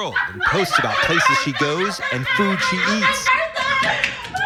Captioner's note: news plays; screams